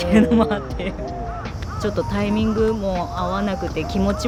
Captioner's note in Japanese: 笑い